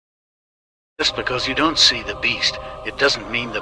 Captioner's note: tts voice